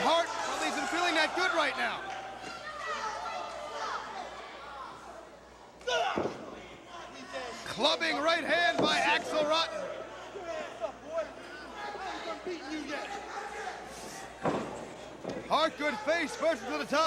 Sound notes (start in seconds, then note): 10.8 crowd chatter